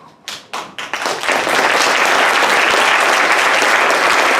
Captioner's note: audience applauding